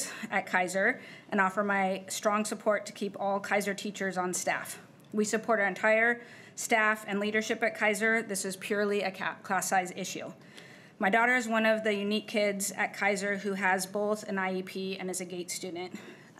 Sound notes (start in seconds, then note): none